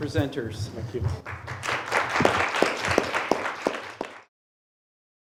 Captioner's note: applause